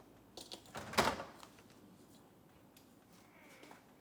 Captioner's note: door rattles